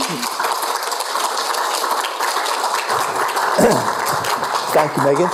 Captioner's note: applause